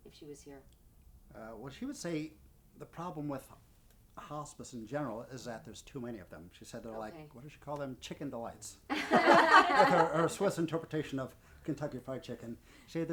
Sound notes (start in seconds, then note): 8.9 laughing